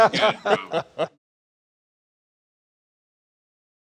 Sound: chuckling

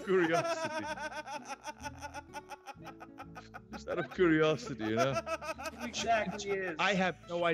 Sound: laugh

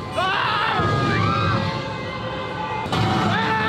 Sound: screams

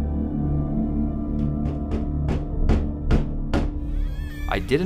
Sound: knocking

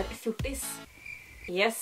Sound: criquets

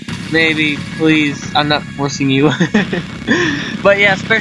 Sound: chuckles

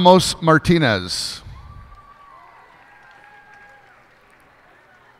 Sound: cheers and applause

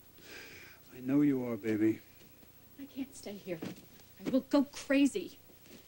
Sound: sighs

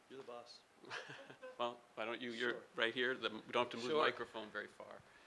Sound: laughing

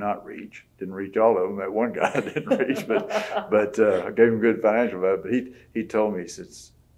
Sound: laughter

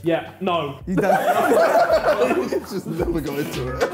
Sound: laughing; bright upbeat music

